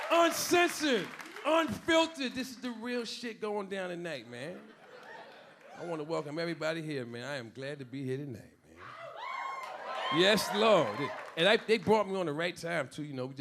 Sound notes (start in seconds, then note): 5.3 a few audience members cheering; 8.8 a few audience members cheering